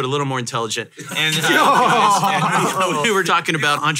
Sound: hosts laugh

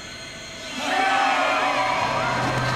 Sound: screaming

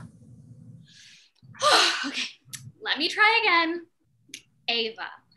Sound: deep exhale

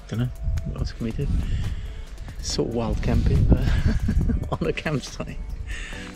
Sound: laughs

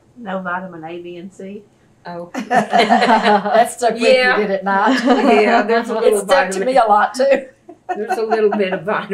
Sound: laughter

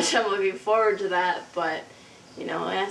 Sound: laughing

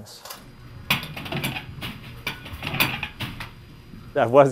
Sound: sound of DVDs sliding through return slot

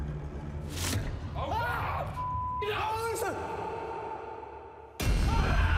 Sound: screaming

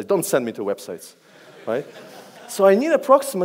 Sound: audience laughs

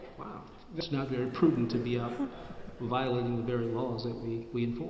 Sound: laugh

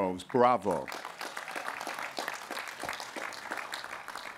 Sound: applause

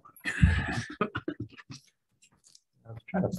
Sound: all laughing

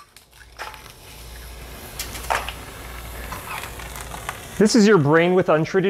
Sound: egg sizzling

